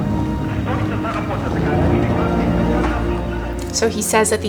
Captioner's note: voice speaking in foreign language on loudspeaker